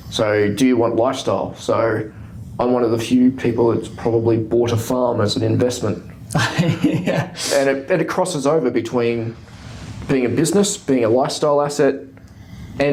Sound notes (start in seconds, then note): 6.3 laughing